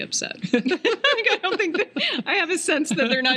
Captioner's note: laughing